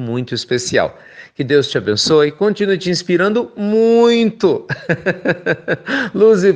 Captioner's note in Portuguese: risos